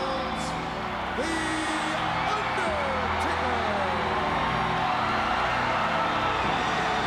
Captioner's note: crowd cheering